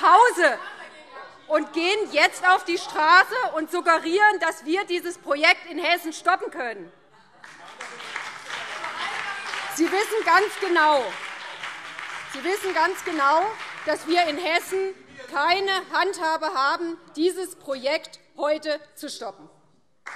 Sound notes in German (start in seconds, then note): 7.4 Beifall BÜNDNIS 90/DIE GRÜNEN; 19.9 Beifall BÜNDNIS 90/DIE GRÜNEN und vereinzelt CDU